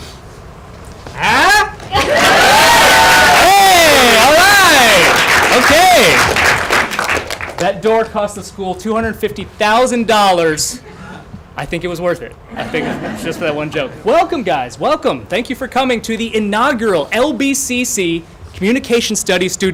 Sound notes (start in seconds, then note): 1.9 cheering